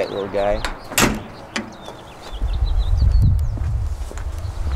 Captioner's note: birds chirping